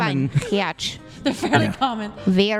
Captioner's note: laughs